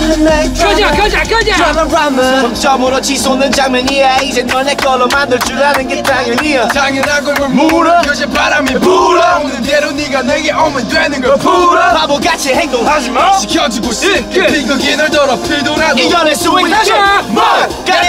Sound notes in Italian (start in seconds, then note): 5.0 clap clap clap clap clap